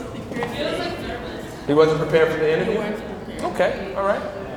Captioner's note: crowd answers